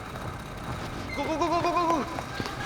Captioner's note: door creaks